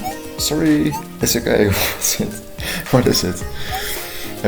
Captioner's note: chuckling